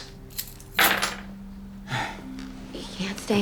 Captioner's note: sighs